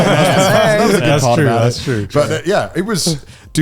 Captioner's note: all laughing